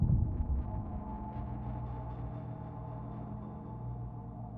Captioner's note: none